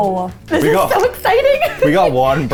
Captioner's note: laughing